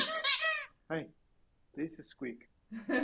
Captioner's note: squeak